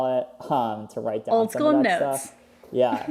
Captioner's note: laughs